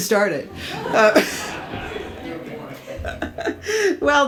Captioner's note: audience laughs